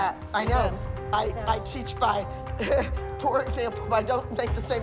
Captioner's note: chuckles